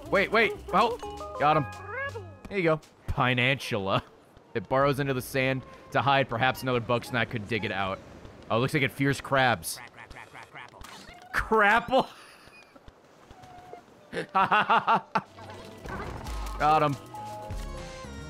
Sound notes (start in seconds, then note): 13.3 laughs